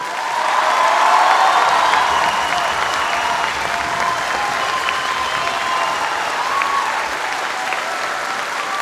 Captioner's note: applause and cheers